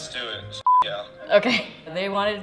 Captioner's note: beep